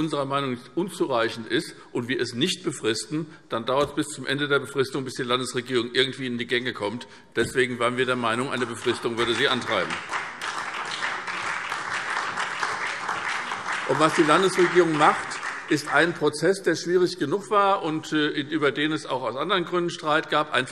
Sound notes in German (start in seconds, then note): 10.1 Beifall